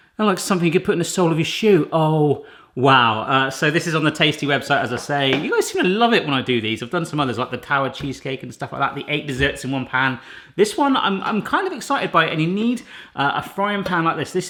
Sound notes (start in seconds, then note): none